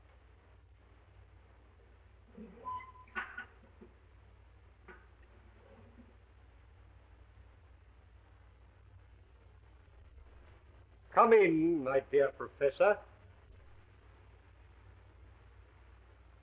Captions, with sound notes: (drawer creaking) Come in, my dear Professor.